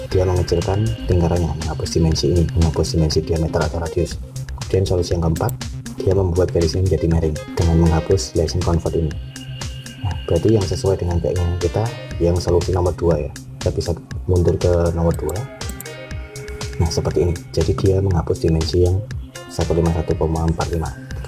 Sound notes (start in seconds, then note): 5.4 click